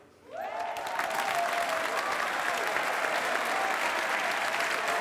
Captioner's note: audience cheers and applauds